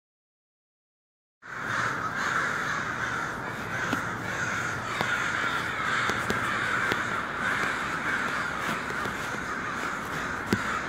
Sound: sound of crows

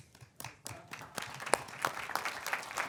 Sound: claps

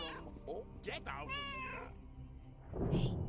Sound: Hodge meowing; Hodge meows

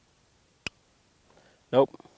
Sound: gun clicks

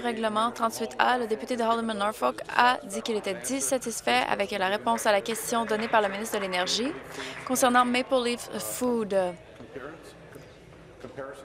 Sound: applause

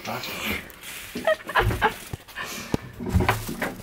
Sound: laughs

